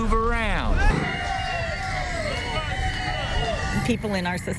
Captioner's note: cheering